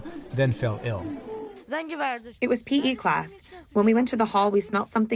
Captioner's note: through translator